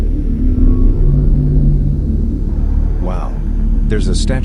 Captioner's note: aircraft whirs